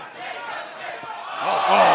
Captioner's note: crowd chatter